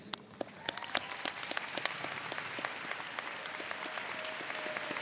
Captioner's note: audience cheers